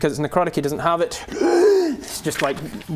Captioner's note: piercing gasp